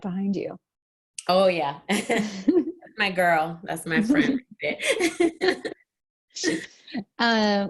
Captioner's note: laughs